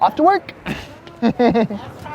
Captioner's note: laughing